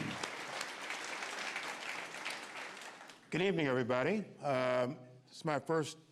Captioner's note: applause